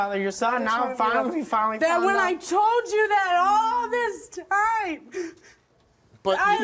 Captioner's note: sobs